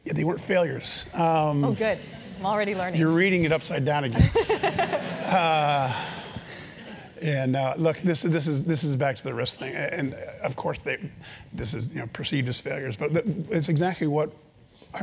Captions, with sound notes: >> They weren't failures. >> Good, I'm already learning. >> You're reading it upside-down again. >> [LAUGH] >> And, look, this is back to the risk thing, and of course, this is perceived as failure.